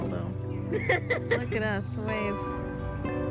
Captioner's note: laughs